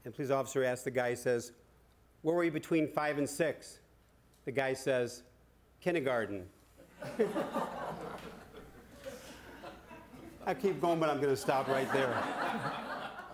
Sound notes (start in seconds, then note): 6.8 laughter